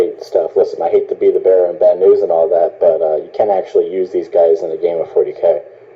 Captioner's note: over phone